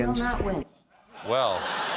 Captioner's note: laughter